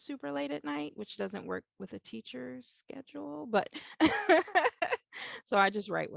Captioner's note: laughs